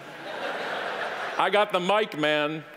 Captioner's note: audience laughing